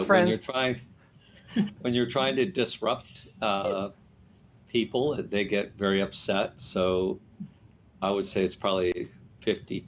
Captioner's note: laughter